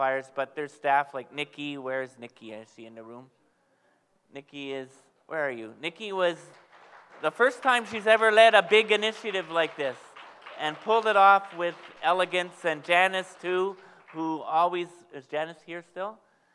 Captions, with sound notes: but there's staff like Nikki, where's Nikki, I see in the room. Nikki is, where are you? (audience applauds) Nikki was, the first time she ever led a big initiative like this, and pulled it off with elegance, and Janice too, who always, is Janice here still?